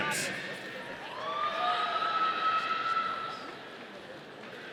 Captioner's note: audience cheering